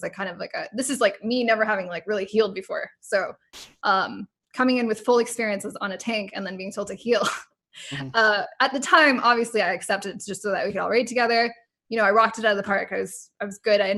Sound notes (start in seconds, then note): 7.9 laughs